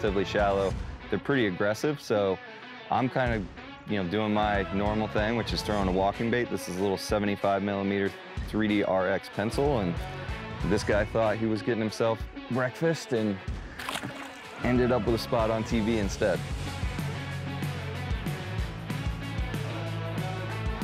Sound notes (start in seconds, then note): 13.6 water splashing; 17.5 upbeat rock music